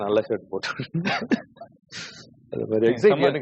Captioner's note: laughing